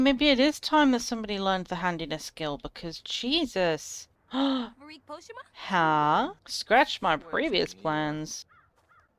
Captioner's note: gasps